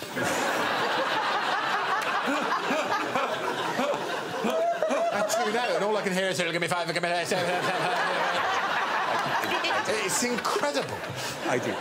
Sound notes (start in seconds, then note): 0.2 laughter; 8.5 imitates bid calling